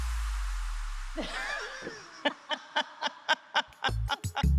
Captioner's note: both laughing